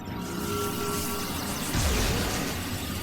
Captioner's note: electric static